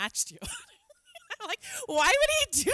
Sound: laughs

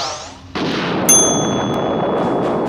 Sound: bell dings; loud explosion

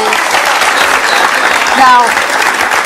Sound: audience claps

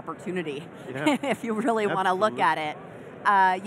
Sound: chuckling

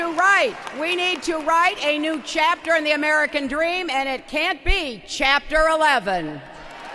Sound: applause

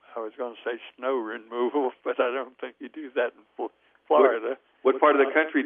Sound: laughs

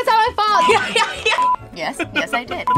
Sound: laughing

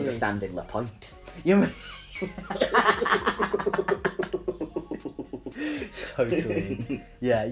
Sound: both laugh

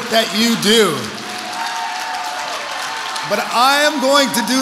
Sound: audience applauds

